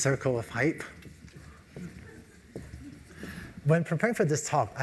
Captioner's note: laugh